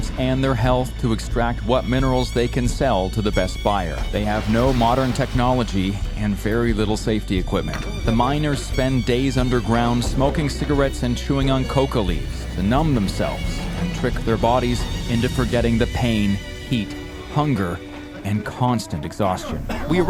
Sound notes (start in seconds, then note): 4.0 debris pours; 19.4 miners coughing